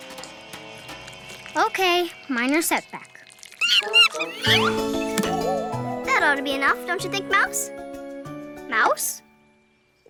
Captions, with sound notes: Okay, minor setback. (monkey squeaks) - That ought to be enough, don't you think, Mouse? Mouse?